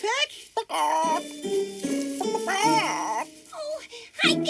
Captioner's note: Peck clucking